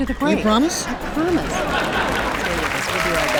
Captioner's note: audience laughing